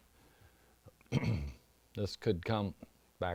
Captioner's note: clears throat